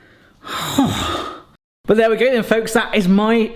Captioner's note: sighs